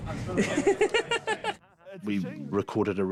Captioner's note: laughs